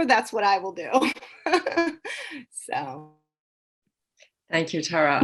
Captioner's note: laughs